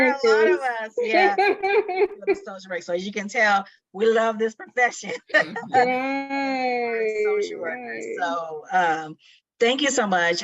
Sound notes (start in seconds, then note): 1.0 laughing; 5.2 both laughing